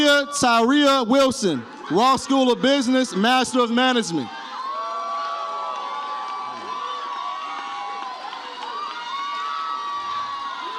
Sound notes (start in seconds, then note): 4.9 audience cheers